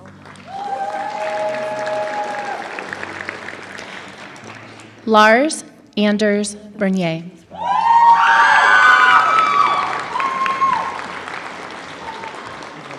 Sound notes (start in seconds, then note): 1.8 applause